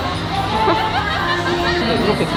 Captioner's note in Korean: 웃음